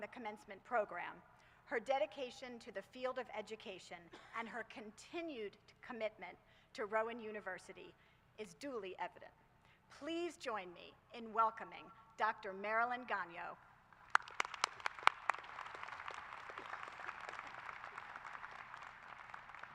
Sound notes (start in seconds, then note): 13.9 applause